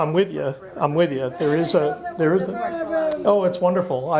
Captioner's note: murmurs